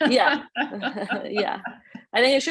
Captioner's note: laughs